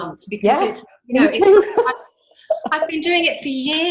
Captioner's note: laughs